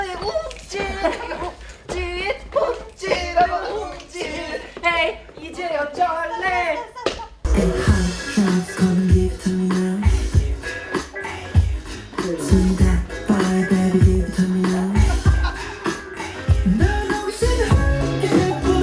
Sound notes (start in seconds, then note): 15.3 others burst out laughing at fancy footwork